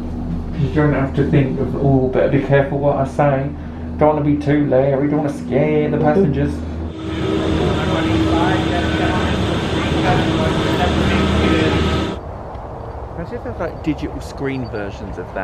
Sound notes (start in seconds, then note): 9.1 machine whirring